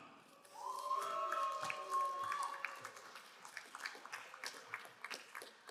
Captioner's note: crowd cheering and applauding